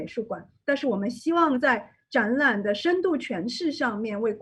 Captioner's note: none